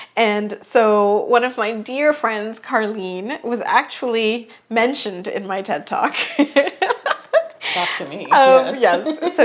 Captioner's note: giggles